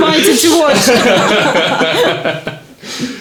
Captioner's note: laughing